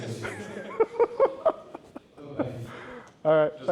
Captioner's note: laughter